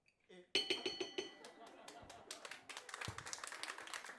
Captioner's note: gong; applause